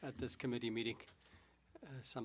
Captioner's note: speaking French